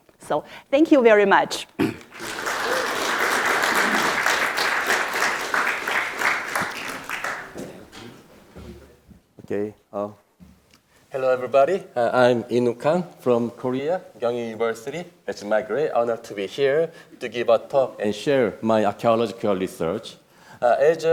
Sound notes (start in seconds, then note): 2.0 audience applauding